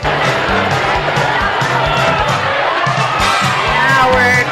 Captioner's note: crowd cheering